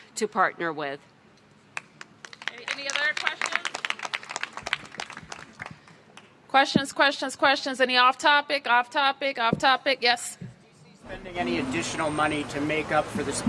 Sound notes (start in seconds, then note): 1.7 applause